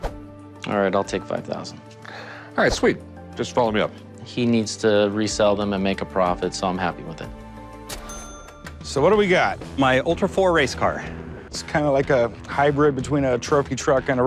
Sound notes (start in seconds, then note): 8.0 cha-ching